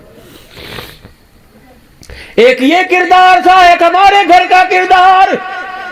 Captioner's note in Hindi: नाक से की जाने वाली आवाज़; चीखने की आवाज़